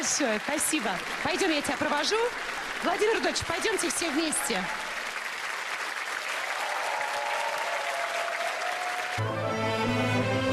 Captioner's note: applause